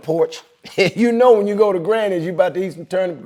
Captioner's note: laughing